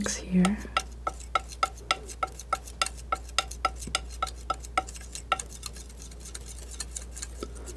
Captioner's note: scratching